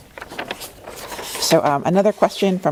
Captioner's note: paper rustling